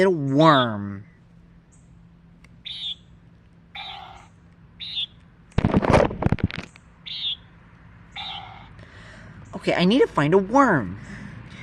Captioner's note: cute beeps